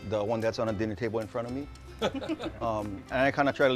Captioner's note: laughter